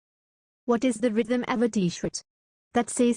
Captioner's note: voiceover